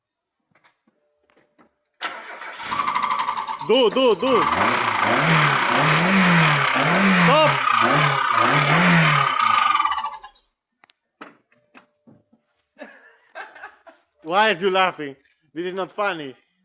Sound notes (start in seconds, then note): 3.0 belt whine; 5.1 revs. More belt whine. Smoke. Sadness; 9.2 engine slowly stops